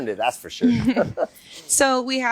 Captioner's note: both chuckle